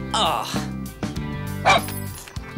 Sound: dog barking

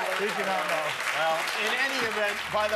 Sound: cheers and applause

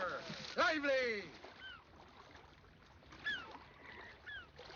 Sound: sea gull crying

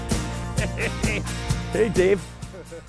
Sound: chuckling; chuckling

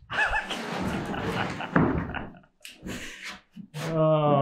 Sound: laughs softly

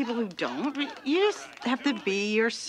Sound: women cheering

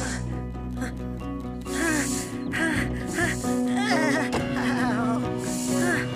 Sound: straining Noises

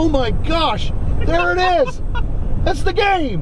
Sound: laughs

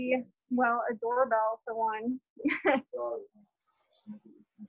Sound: laughter

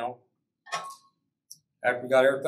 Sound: metal clanking

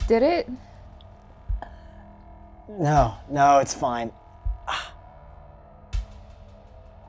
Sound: heavy breathing

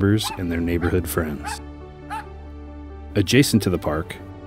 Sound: barking dog

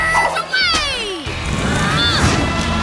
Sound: grunting

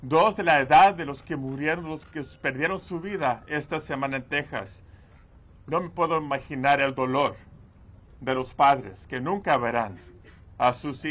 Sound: speaking foreign language

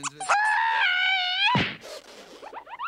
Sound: yells; Miss Piggy screaming; Bean thudding

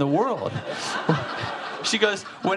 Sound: audience laughing

